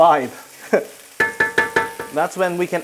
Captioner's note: chuckles